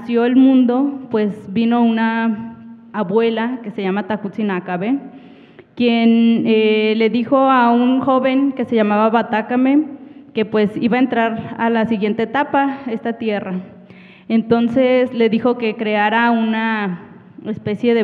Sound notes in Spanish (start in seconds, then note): 9.1 habla en wixárika